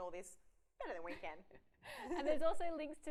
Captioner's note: laughs